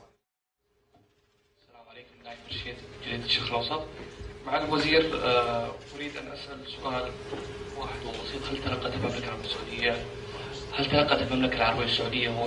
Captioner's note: in Arabic